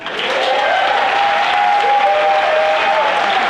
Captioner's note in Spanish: Aplausos